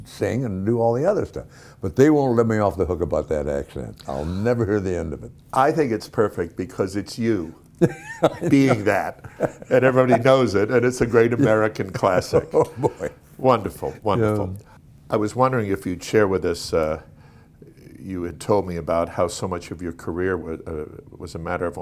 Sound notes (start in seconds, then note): 13.2 laughing